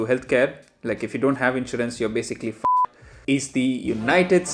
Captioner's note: beep